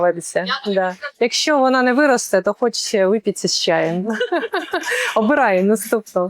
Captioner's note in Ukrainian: сміх